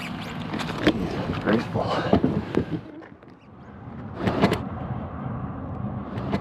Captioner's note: sarcastic